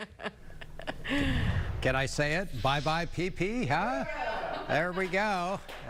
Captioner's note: laughter